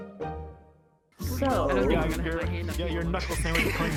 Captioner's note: chatter